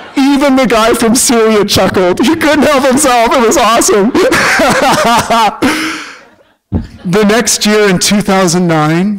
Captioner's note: laughter; laughter